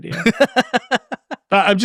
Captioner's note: laughing